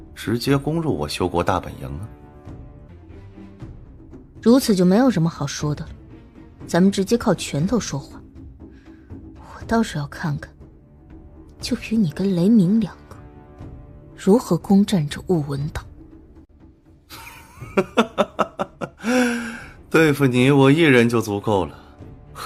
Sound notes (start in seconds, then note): 18.5 mocking